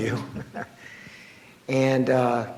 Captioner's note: laughs